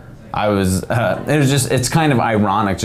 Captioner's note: stuttering